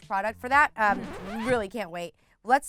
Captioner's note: record scratch